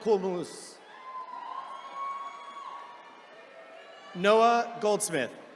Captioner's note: attendees cheering